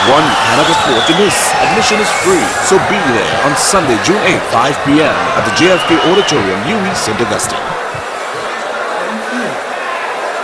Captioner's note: wild applause and cheering for 22 seconds